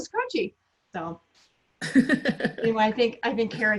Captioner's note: laughs